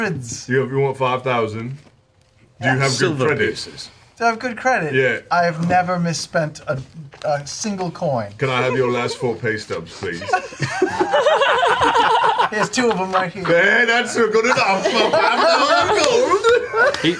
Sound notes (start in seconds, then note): 9.9 laughter